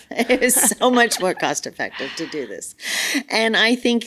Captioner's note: laughs